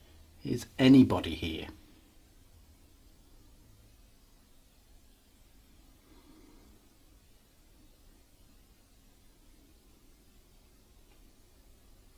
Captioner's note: silence